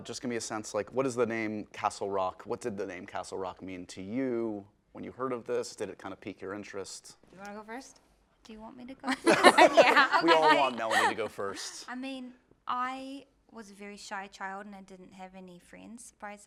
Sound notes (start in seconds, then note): 9.1 laughs